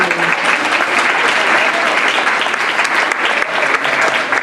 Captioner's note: applause